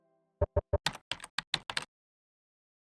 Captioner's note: typing sounds